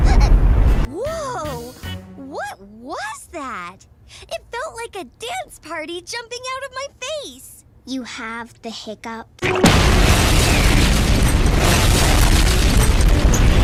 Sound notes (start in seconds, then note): 9.5 4th Explosion